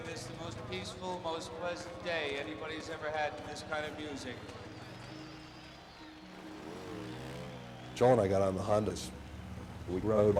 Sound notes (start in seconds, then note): 7.0 motorcycle engines revving